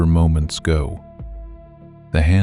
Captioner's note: soft voice